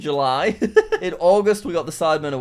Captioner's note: chuckles